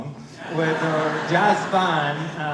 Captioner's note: laughter